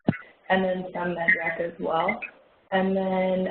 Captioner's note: audio warps